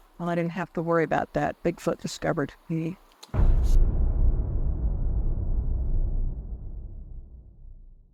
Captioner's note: dramatic boom